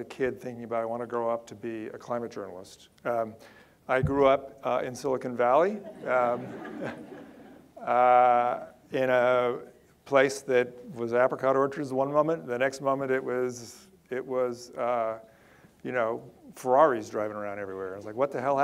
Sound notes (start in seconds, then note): 5.8 audience laughter